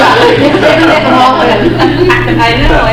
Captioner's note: everyone laughing